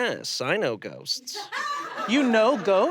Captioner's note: audience laughs